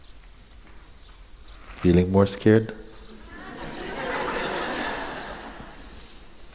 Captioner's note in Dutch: gelach